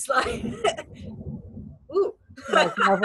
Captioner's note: distant thunder rumbling; laughs